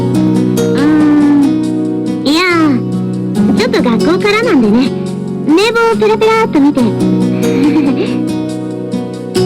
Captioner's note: laughs